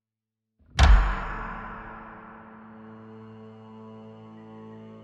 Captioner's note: clapperboard echoes; slow dramatic music